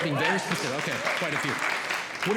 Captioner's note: audience Clapping